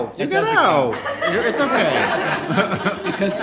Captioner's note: laughing